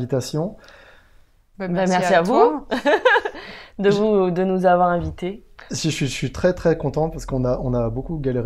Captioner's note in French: rire